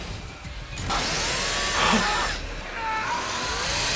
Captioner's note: machine whirs; yells; machine whirs